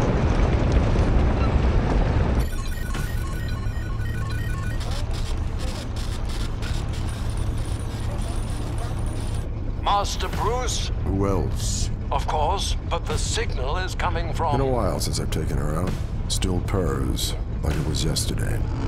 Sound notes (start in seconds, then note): 2.4 computer indicators chiming